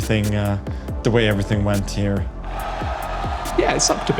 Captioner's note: crowd cheering